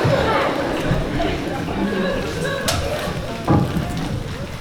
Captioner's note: laughter